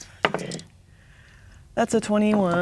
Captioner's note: dice rolling